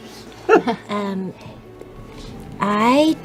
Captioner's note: whispering